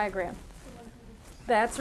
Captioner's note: student speaking faintly